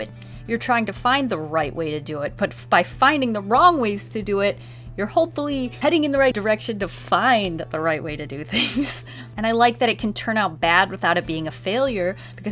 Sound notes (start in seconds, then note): 8.5 laughs